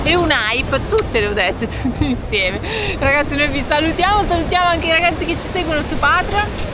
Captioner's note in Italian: risate